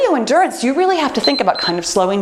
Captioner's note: timer beeps